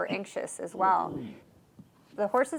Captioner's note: horse groans